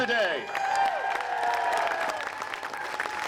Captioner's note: applause